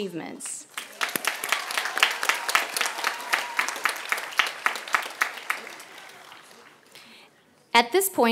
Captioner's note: applause